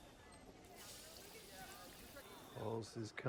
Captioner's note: air hisses